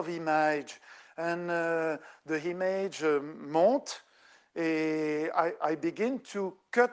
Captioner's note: speaking French